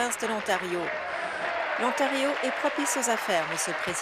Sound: applause

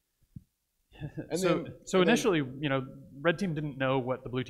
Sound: laughs

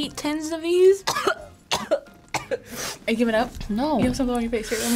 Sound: coughs

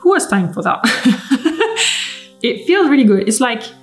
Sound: laughing

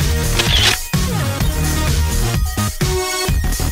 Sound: camera shutter

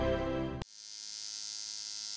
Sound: tattoo Gun Sound

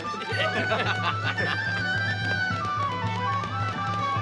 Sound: Gordon laughing; laughs

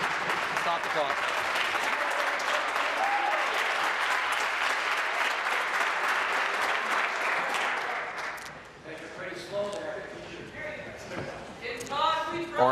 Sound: applause

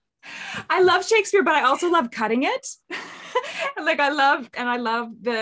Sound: laughs

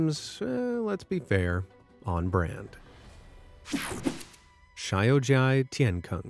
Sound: logo whooshing

